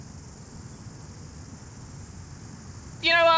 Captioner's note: cicadas buzz